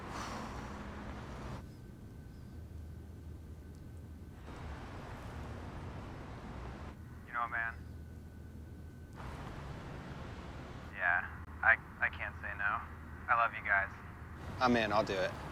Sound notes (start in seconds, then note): 1.4 various traffic sounds